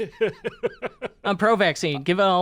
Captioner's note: laughs